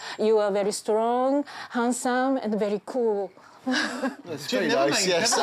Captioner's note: giggles